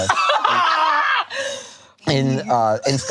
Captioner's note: both laughing